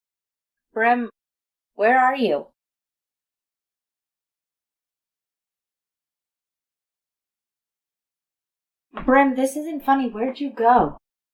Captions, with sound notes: Brim, where are you? [silence] Brim, this isn't funny. Where'd you go?